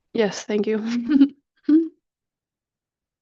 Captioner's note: chuckles